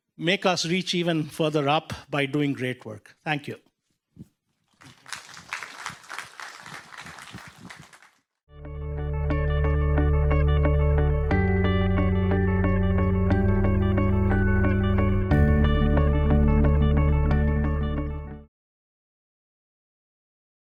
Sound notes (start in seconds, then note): 4.8 clapping; 8.6 upbeat music